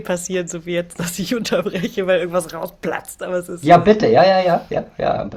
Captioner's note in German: gelächter